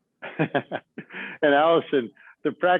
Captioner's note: chuckles